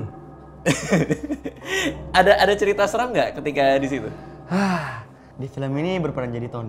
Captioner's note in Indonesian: ketawa